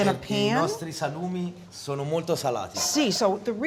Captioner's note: speaking italian